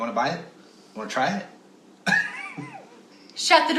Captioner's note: laugh